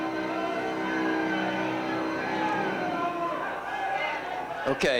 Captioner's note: cheering